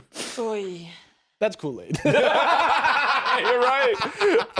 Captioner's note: all laughing